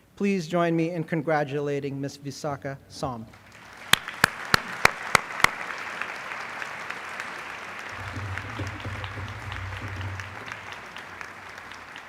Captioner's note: applause